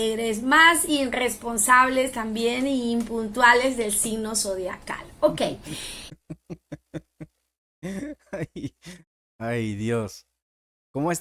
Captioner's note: laughs